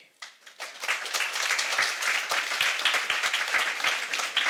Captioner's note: audience applauding